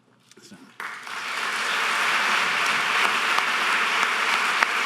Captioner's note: audience applause